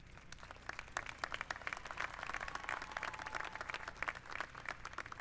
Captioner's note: applause